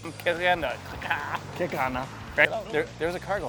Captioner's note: both speaking gibberish